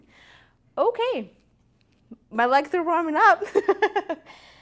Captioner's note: laughs